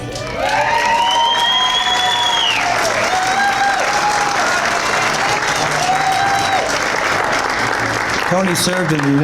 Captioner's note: cheers and Applause